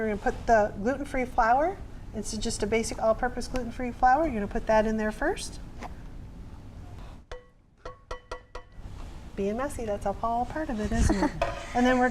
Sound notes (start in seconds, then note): 7.8 tapping